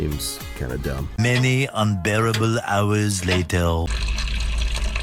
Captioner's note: SpongeBob Voice